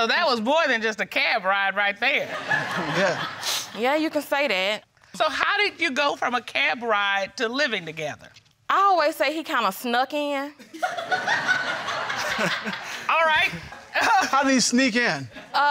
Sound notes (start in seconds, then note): 10.7 crowd laughing